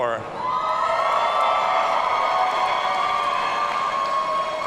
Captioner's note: audience cheering